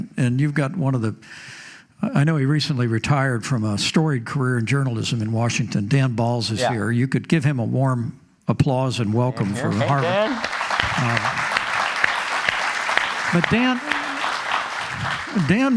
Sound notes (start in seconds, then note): 9.4 applause